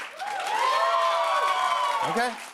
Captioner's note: loud cheers and applause